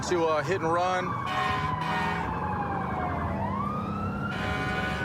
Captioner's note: emt sirens blaring